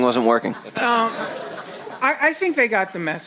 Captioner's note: chuckling